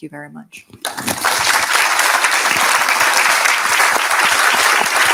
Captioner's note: audience applauding